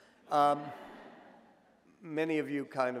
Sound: audience laughs

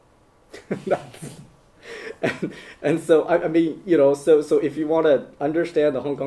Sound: laughter

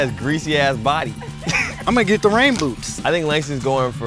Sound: laugh

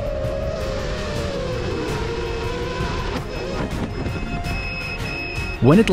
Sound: drone weakly whirring; beeping

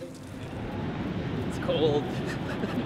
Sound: water splashing; wind roaring; all laughing

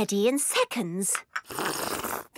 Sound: slurping

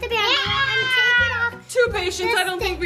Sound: screaming

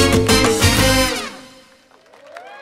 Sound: aplausos

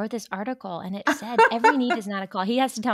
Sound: laughs

